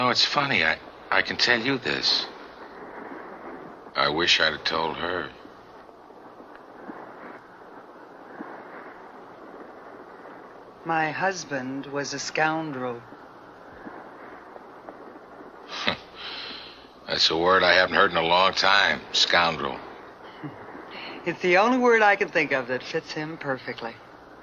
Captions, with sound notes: You know, it's funny, I can tell you this, I wish I would've told her. - My husband was a scoundrel. (David laughs) - That's a word I haven't heard in a long time, scoundrel. (Sylvia laughs) - It's the only word I can think of that fits him perfectly.